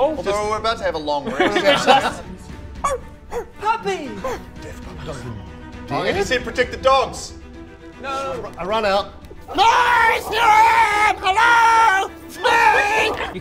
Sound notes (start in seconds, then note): 3.3 woof